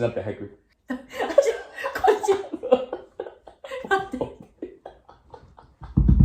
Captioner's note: laughter